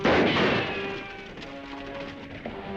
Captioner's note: gun firing; horse neighing; dramatic music